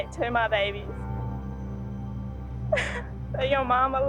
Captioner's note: sobs